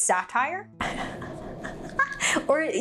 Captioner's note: laughing